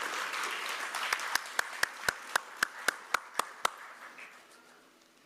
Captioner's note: applause